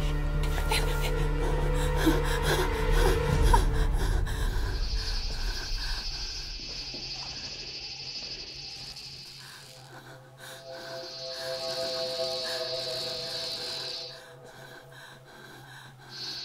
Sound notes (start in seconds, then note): 0.0 breathing heavily; 4.3 humming; 13.6 breathing heavily